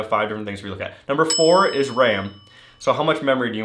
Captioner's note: bell dings